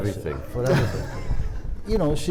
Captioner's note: audience laughs